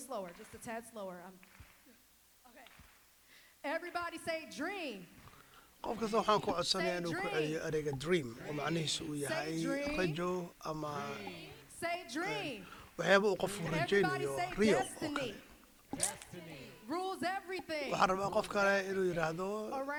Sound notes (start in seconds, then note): 4.1 rhythmic clapping